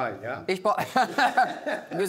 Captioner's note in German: Lachen